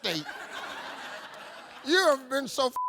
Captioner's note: audience laughing; beep